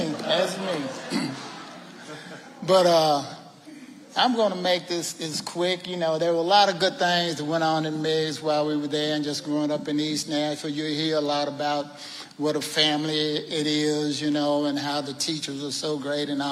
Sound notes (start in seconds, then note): 1.0 clears throat